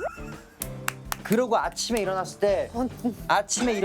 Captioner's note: clap clap